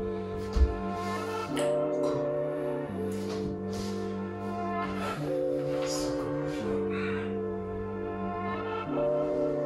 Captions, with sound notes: (clicks tongue) cool Circle push up